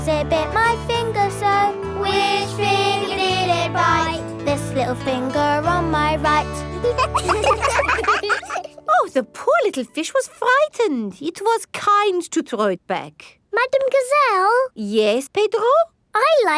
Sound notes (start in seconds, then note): 6.8 children laugh